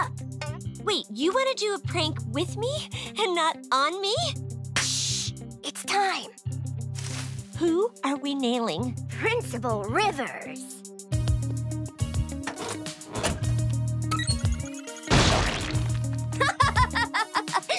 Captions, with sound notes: Wait, you want to do a prank with me, and not on me? Shhh, it's time. Who are we nailing? Principal Rivers. [beeping] [laughing]